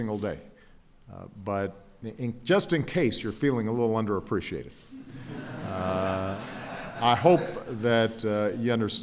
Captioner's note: laughter